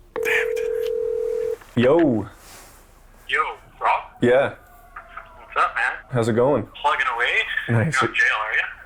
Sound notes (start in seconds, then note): 0.1 phone ringing